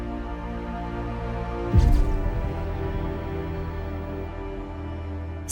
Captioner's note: camera lens shutting